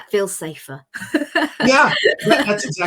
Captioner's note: laughs